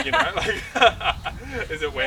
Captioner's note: laughing